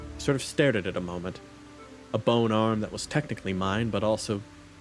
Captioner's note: none